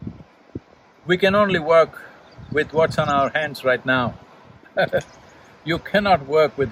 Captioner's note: laughs